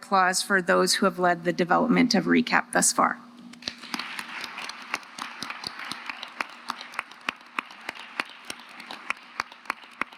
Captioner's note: applause